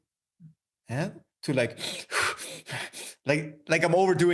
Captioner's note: breathing heavy